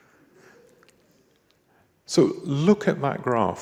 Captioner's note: audience chuckles